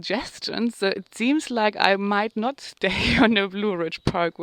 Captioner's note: chuckles